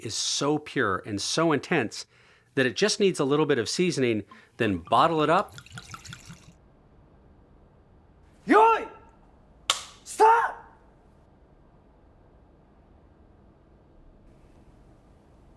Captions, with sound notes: is so pure and so intense that it just needs a little bit of seasoning, then bottle it up. (liquid glugging) - Yoy! Stop!